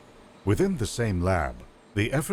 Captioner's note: voiceover